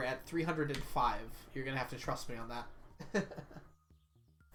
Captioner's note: laughs